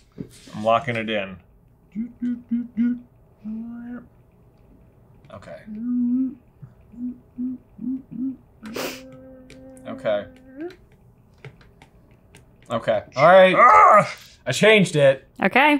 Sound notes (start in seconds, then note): 1.8 humming; 5.6 humming; 13.4 growls